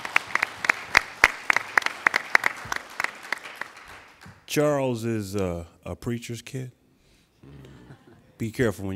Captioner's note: applauding